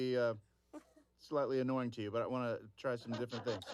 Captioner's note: laughter